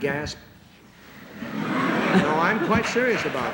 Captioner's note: laughter